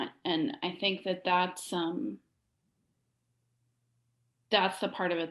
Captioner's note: none